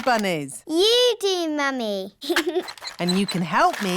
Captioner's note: giggles